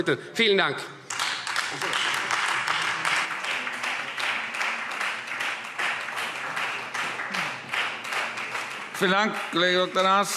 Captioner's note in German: Beifall Freie Demokraten